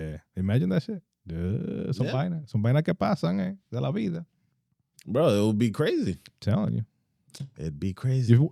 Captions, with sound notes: Yeah, imagine that shit. (Speaking In Foreign Language) Bro, it would be crazy. Telling you. It'd be crazy.